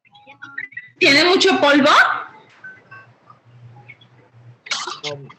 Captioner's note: woman speaking Spanish